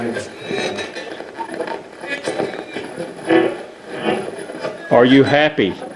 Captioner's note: radio channel changing